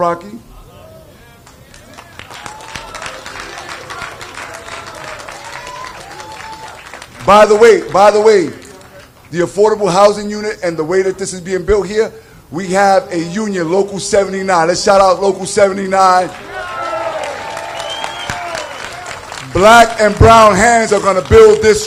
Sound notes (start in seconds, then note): 8.6 applsaue